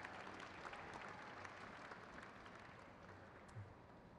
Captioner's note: crowd claps